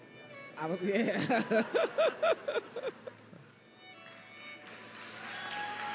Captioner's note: laughs